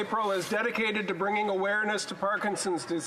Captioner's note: speaking Alternate Language